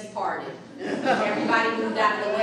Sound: audience laughing

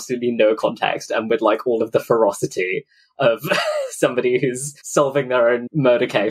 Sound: laughs

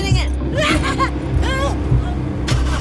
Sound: drunken laughter

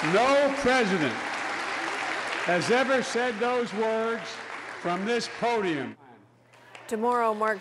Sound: applause

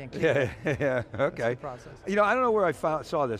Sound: laughs

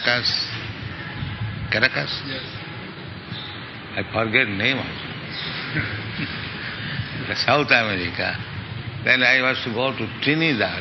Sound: laughs

